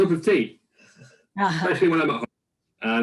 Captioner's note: laughs